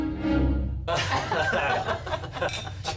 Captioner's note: laughter